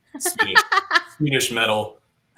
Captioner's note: laughter